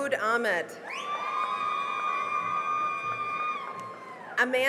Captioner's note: cheering and applause